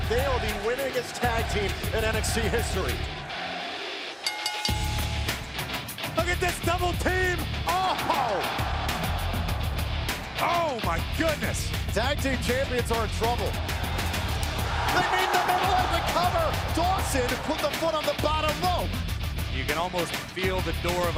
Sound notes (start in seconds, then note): 4.2 bell ringing; 7.6 crowd cheering; 14.0 crowd cheering